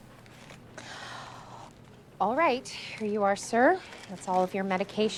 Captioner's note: inhales